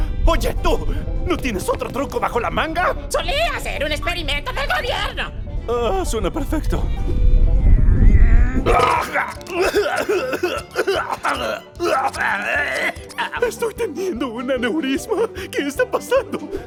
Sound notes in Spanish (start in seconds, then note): 7.0 Se intensifican las carcajadas; 8.6 sonido de tos con patos de goma